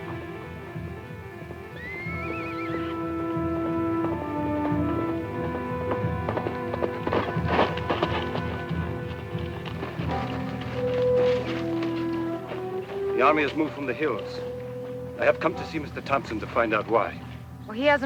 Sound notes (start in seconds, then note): 1.4 suspenseful music; 1.7 horse neighs